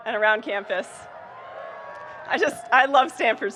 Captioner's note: audience cheering and applauding